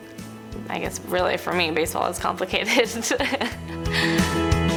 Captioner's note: laughs; bright inspiring music